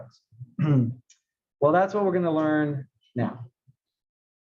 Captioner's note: cough